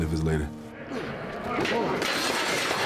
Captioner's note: group chattering; metal clanking